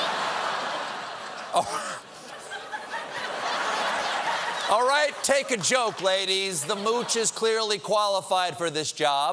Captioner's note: laughter